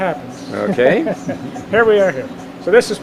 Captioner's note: both chuckle